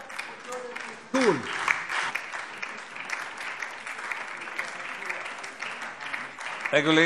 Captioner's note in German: Beifall DIE LINKE